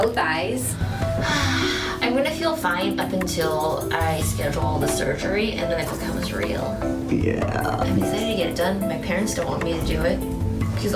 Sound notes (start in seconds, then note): 0.8 sighs